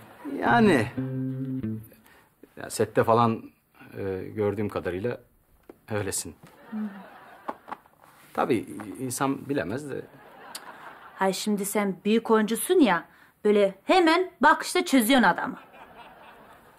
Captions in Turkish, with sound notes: Yani, sette falan gördüğüm kadarıyla öylesin. (Gülme efekti) Tabii insan bilemez de... (Gülme efekti) Hayır, şimdi sen büyük oyuncusun ya, böyle hemen bir bakışta çözüyorsun adamı. (Gülme efekti)